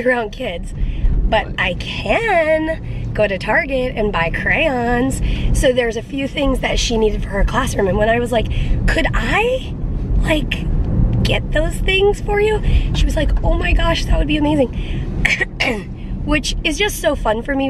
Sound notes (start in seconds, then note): 15.2 coughing